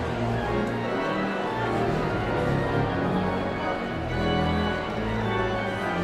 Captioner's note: audience chatter continues; sound of organ tuning